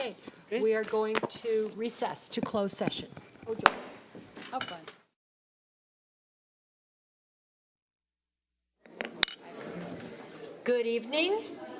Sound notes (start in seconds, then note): 3.6 gavel knocking; 3.7 audience chattering